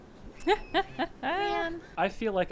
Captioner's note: laughing